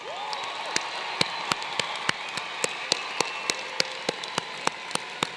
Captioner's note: applause